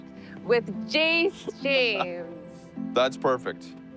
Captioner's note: laughing